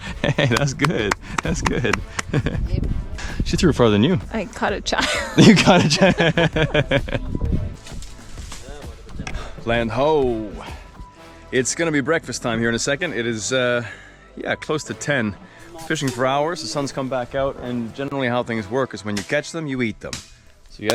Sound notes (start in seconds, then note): 2.7 chuckles; 5.0 chuckles; 8.3 laughing